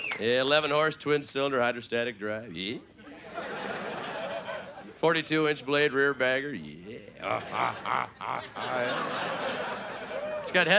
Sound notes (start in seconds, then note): 3.0 audience laughing; 6.8 playful grunting; 9.7 audience laughing